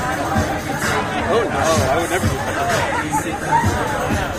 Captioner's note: laughter